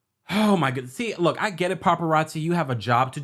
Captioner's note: sighs